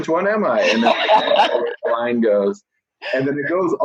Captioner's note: laughing